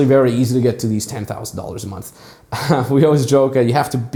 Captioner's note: laughs